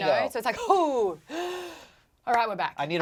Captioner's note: gasps